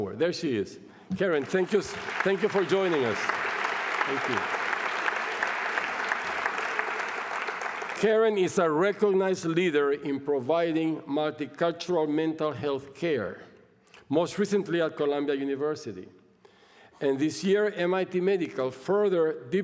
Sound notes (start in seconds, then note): 3.3 applause